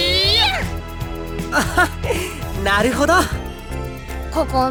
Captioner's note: laugh